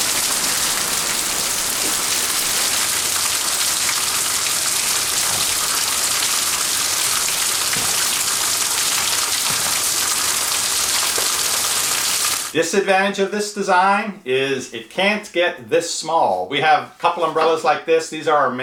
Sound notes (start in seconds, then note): 3.1 rain